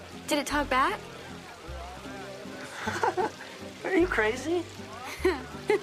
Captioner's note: laughs; laughs